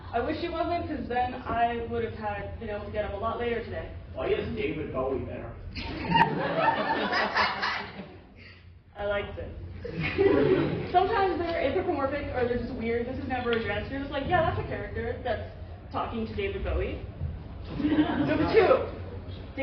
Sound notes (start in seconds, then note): 4.2 laughter